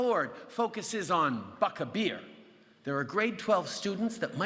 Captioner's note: none